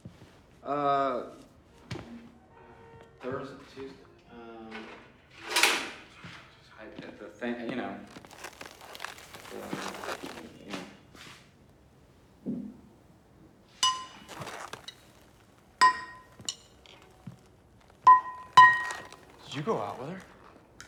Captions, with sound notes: - Uh, Thurs, Tues, um. At the thing, you know. (latex rubbing) (metal banging) - Did you go out with her?